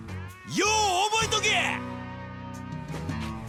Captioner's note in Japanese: 叫び声